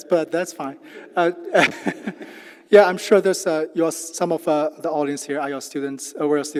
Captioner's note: laugh